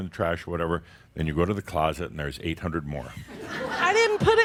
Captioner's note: laughter